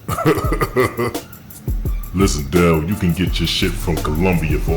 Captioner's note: laughs